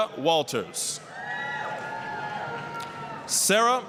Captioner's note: applause, cheering